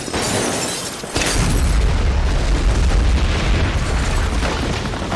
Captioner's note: gunshots and glass breaking; big explosion; rumbling